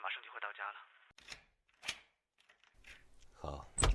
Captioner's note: unlocking door